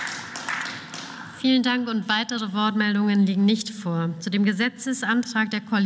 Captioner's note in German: Beifall